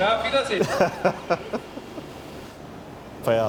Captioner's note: laughter